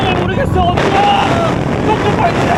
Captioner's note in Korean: 으아아아